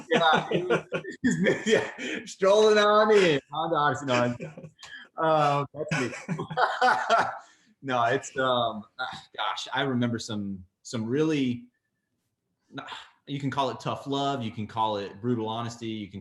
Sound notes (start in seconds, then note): 3.9 laughs